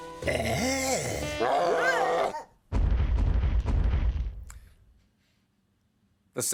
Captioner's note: roaring